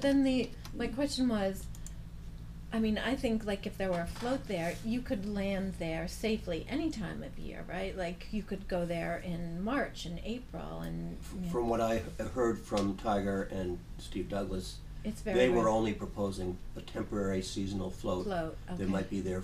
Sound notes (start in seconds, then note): 10.8 voiceover